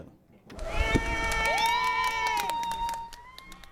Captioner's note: people cheering